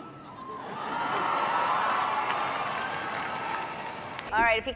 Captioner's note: crowd cheering